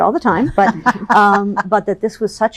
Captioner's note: laughs